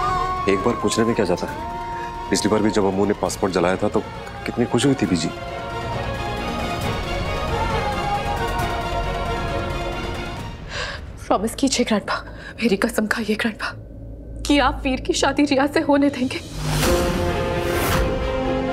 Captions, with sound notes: There's no harm in asking once. The previous time, when Amu had burned the passport Mother was so pleased. [emotional vocalising] Promise me, grandpa. Swear on me that you'll let Veer get married to Ria. [dramatic music playing]